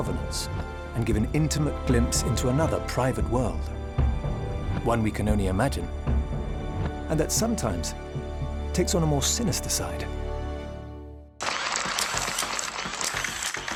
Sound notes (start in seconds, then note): 11.7 camera shutters clicking